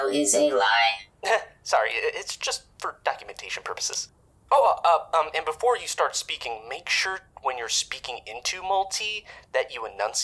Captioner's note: chuckle